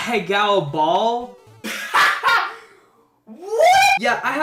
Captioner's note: laughing in the background